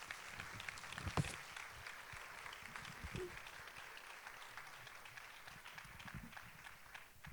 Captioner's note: applause